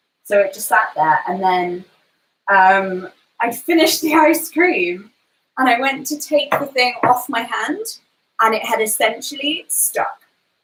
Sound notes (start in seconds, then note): none